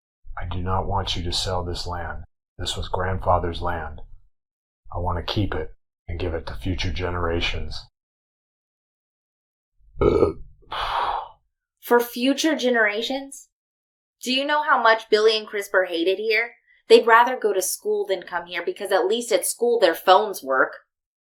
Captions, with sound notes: I do not want you to sell this land. This was grandfather's land. I want to keep it and give it to future generations. [burps] [forceful exhale] For future generations? Do you know how much Billy and Crisper hate it here? They'd rather go to school than come here because at least at school their phones work.